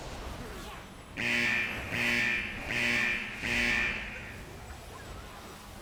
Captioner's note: horn honking